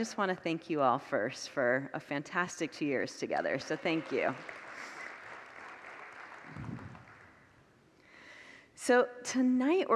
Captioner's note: congregants applaud